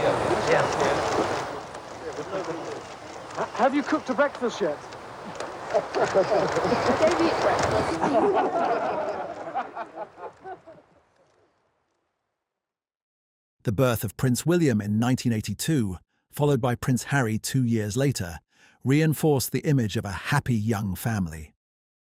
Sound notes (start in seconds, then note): 5.1 chuckles; 8.0 laughter